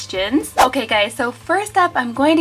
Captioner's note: air whooshes